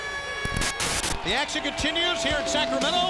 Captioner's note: TV static hissing